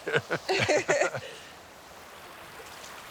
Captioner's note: both chuckle